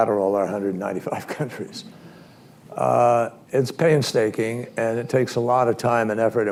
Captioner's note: laughs